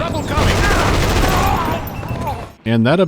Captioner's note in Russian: звучный рататат с отзвуками